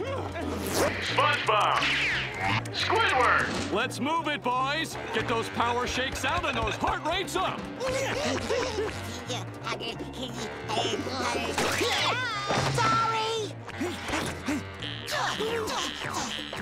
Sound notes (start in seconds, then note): 7.6 panting; 10.0 grunting; 11.2 screaming; 13.6 panting; 13.6 grunting